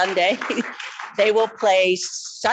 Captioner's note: people clapping